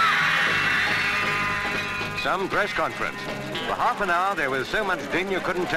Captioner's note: overlapping chattering